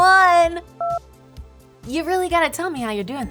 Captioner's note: telephone button beeping